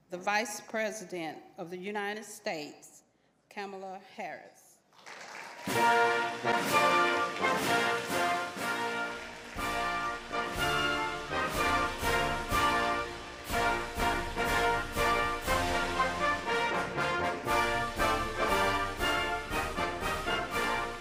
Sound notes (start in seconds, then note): 4.9 applause